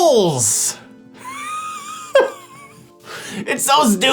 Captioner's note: laughing